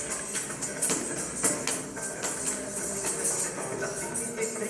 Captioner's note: coins jingling